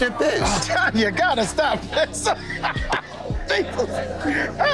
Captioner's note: laughs